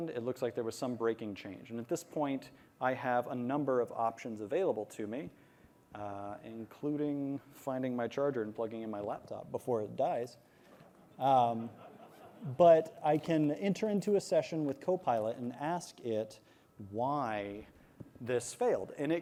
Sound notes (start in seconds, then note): 11.4 laughter